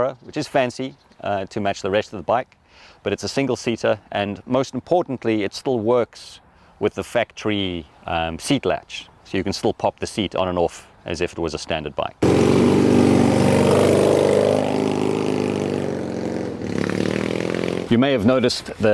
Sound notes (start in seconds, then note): 12.2 engine roars